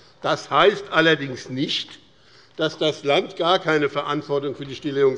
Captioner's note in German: none